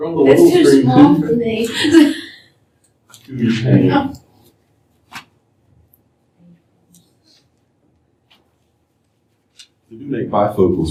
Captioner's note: laughter